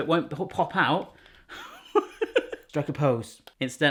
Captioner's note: laughing